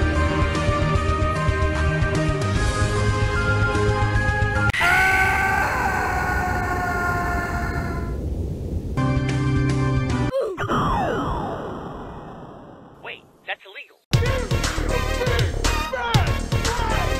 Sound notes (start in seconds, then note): 4.7 hilarous screaming voice clip